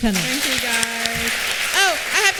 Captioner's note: applause